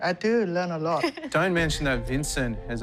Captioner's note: laughter